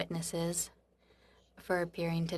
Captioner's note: speaking French